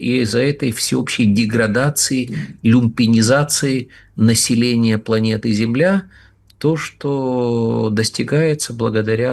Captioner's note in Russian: откашливается